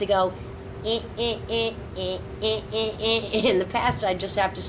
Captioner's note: rhythmic beeping